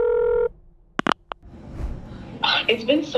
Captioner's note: phone line clicks; phone line ringing